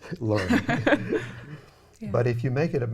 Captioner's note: people laugh quietly